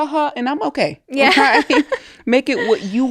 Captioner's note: both laughing